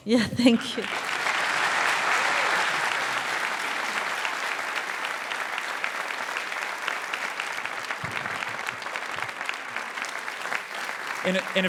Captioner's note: applause